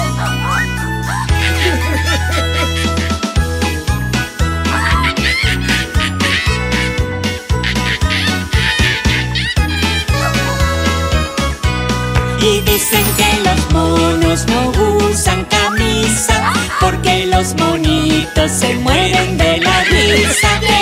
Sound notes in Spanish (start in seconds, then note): 10.4 Sonido de corneta